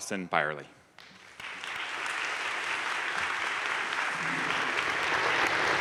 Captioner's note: crowd applauding